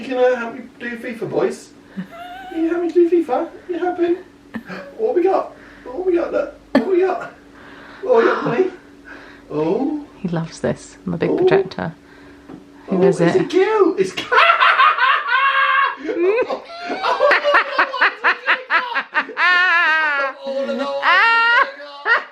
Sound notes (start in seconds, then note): 14.2 laughs